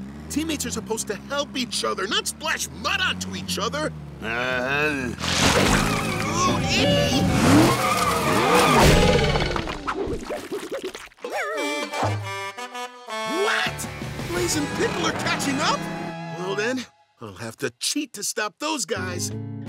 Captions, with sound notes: Teammates are supposed to help each other, not splash mud onto each other. [groaning] Ohh, ee! [honking] What? Blaze and Pickle are catching up? Well then, I'll have to cheat to stop those guys.